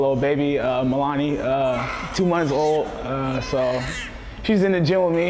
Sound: crying

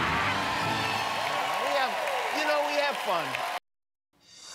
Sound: cheers and applause

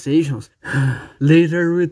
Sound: sigh

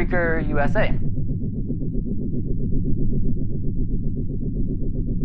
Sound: fan whirring

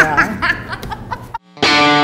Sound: laughs

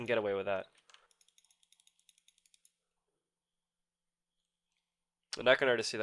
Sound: click sounds

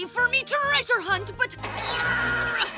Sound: groaning

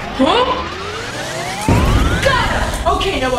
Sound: powering up; beam blasting

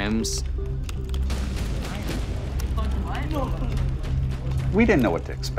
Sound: keyboards clacking

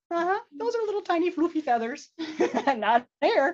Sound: chuckles

